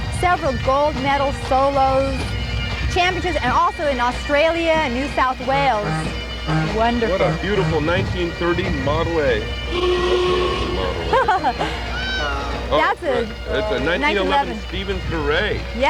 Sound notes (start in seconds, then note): 5.5 car Horn Honks; 9.7 Model A Klaxon Horn